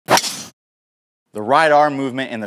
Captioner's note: club making contact with golf ball